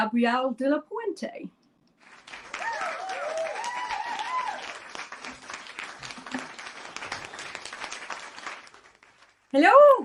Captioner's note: applause